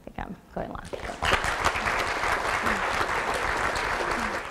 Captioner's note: applause